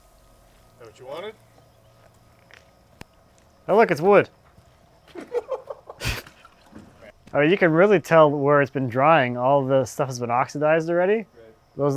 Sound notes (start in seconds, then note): 5.1 laughing